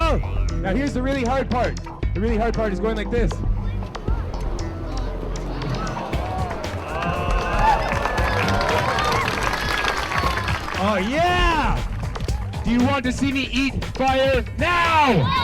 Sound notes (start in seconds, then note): 8.1 audience applauding